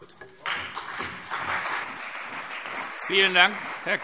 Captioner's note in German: Beifall CDU und BÜNDNIS 90/DIE GRÜNEN